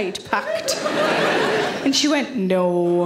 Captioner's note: audience laughing